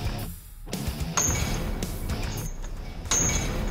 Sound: clanking

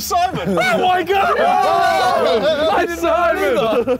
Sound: cheering

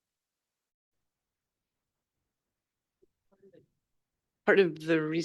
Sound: audio cuts out

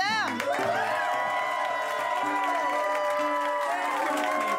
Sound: cheers and applause

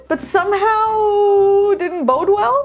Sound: none

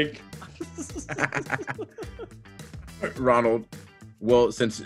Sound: laugh

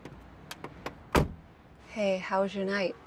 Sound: car door closes; car door opens

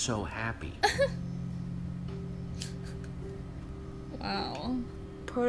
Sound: Sabrina laughs

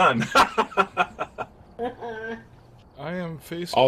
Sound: laughs

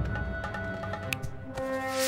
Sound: snapping

